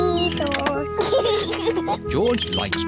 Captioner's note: giggles